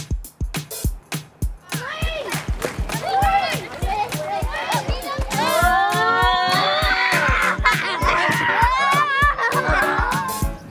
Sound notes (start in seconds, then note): 2.1 children shouting; 7.3 laughter